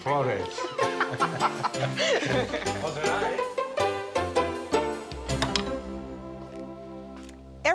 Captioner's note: speaking Italian; laughter